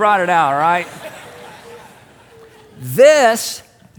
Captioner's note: congregation laughs